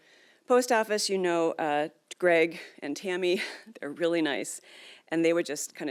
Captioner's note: laughs